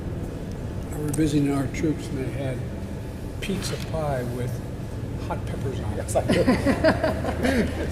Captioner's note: laughter